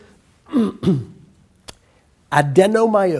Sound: clears throat

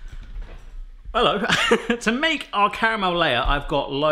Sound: laughing

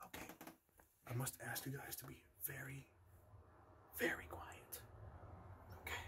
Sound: whispering

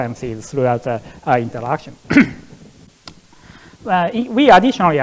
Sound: coughs

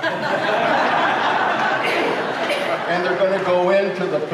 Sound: crowd laughs

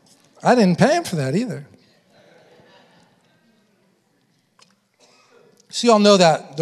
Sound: congregation laughing; congregation laughing

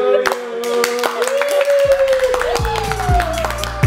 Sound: claps

